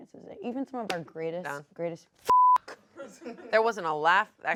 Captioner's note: beep